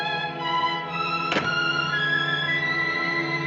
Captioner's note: door closes